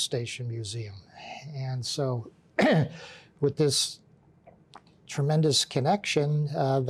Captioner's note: clears throat